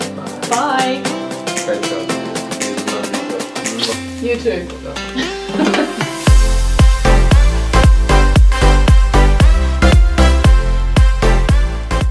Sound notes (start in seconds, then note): 5.0 laughs; 6.5 upbeat music